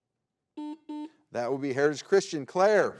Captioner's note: button blips